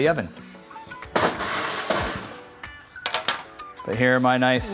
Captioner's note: pan clanging